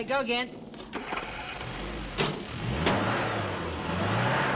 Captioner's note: engine revving